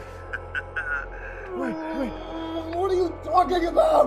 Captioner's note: laughs